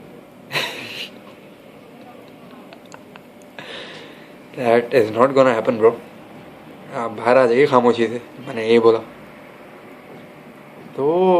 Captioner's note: laugh